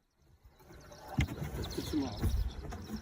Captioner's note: birds chirping; speaking foreign language